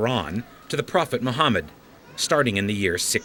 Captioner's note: chanting continues